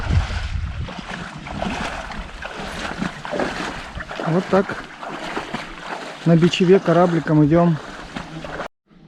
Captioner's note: footsteps in water